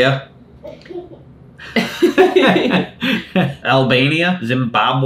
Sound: both laughing

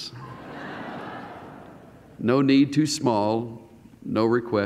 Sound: laughter

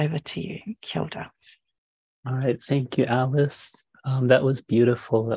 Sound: speaking Maori

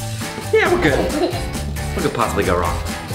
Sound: child giggles

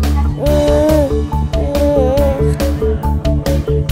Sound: baby monkey mumbling

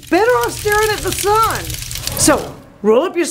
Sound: loud sizzle

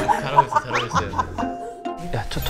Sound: Bong-sun bursts into laughter, too

